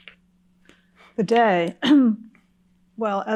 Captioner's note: clears throat